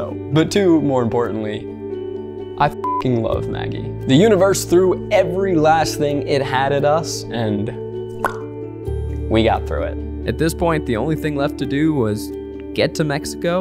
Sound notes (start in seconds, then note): 8.2 mouth pops